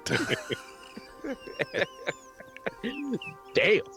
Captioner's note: laughing